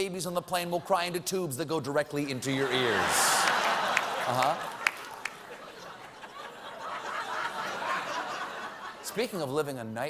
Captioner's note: laughter